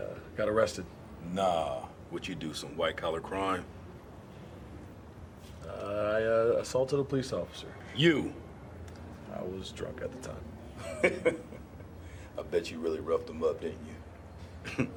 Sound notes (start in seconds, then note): 10.7 laughs